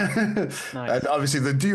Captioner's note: laughing